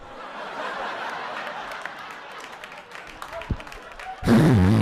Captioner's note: audience laughing